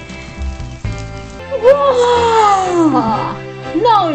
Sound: fake yawn

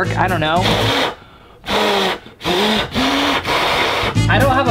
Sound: exaggerated blowing on fingers

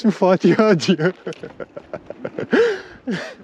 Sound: laughs maniacally

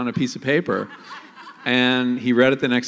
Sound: laughter

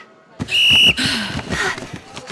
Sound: blows Whistle

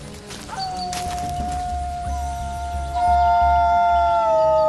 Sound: Matei and Selina howling

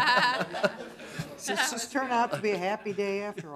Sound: laughter

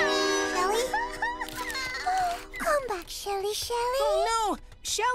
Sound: crying; gasp

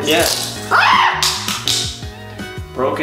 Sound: screams

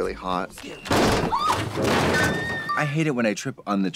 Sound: Cady screams

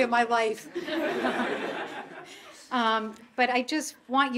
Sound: audience laughing

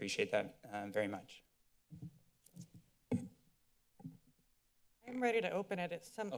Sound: silence

